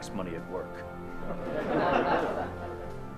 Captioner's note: laughing